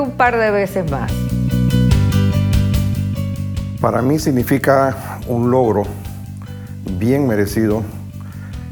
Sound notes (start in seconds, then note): 0.5 upbeat rock music; 4.2 speaking Spanish